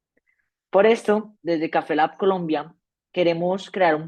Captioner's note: speaking spanish